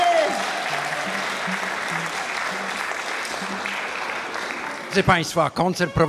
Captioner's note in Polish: oklaski